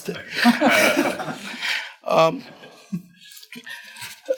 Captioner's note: group chuckles